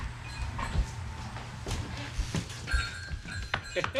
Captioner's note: footsteps shuffle